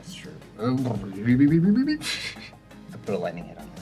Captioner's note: mumbles funny sounds